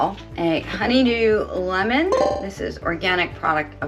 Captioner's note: bell dinging